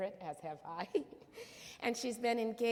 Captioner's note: laughs